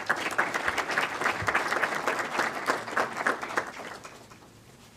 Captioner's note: clapping